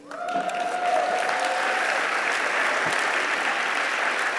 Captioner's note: applause